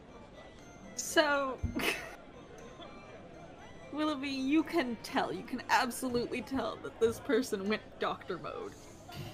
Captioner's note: laughs